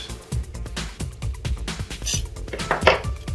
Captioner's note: metal scrape; thud on table